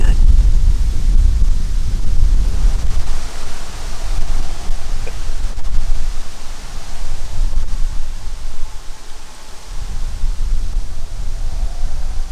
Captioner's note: wind